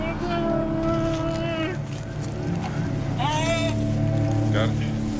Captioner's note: groaning